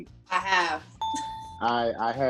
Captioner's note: bell chiming